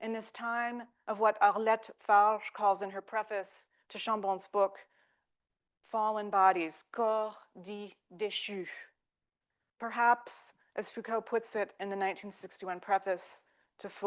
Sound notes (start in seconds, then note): 7.3 speaking French; 13.8 speaking French